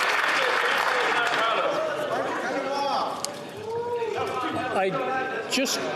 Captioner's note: some Applause